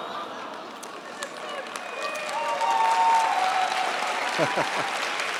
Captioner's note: cheers, applause